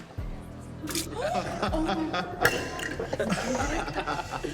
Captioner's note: dramatic music; all laughing